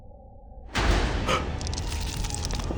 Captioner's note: Mick gasping; ominous music